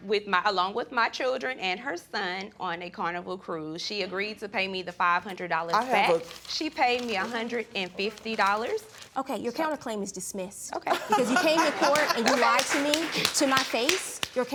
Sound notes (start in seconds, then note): 10.8 laughing